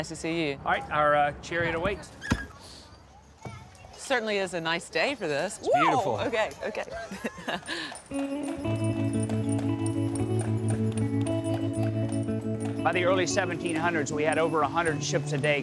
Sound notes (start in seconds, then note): 2.2 squeaking sound; 6.8 laughs; 8.0 light guitar music